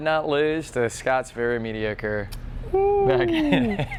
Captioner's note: hoots